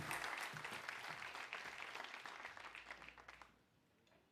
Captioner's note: applause